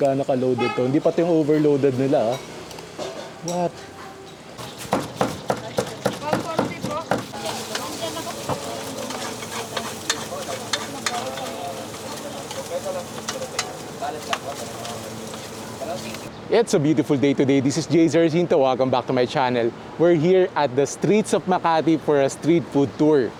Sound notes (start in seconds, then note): 4.6 knife hitting chopping block; 7.8 food sizzling